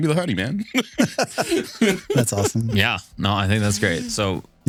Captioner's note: both Laughing